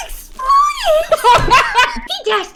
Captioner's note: laughter